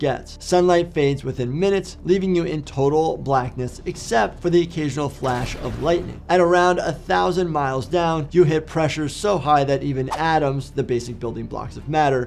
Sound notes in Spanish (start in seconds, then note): 5.2 crepitar de un rayo; 9.9 transición silbante